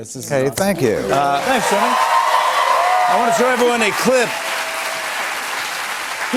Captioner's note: cheers and applause